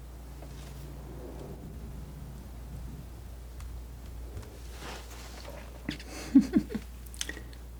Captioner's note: chuckles